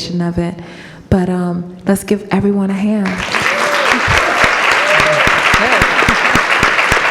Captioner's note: audience applauding